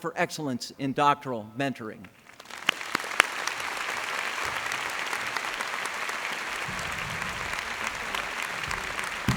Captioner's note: applause